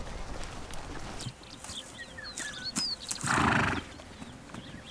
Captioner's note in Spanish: SOUND Horse neigh